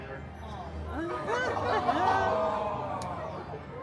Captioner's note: guests gasping